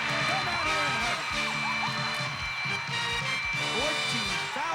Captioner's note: audience applauding